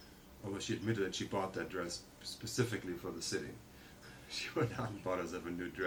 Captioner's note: laughs